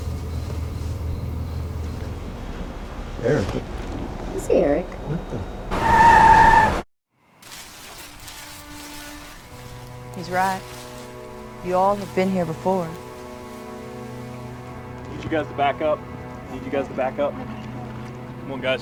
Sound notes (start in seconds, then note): 4.9 tires screeching; 8.4 somber music